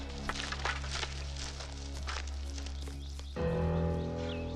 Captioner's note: leaves rustling; brief menacing music; moves to low tense music